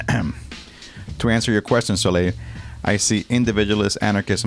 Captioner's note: ahem